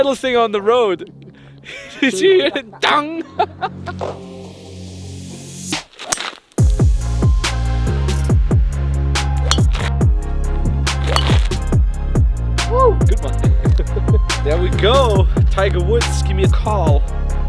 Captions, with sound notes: - He hit the metal thing on the road. Did you hear dong! (upbeat music) (golf club swings and hits ball) Good one ,there we go ,Tiger Woods give me a call.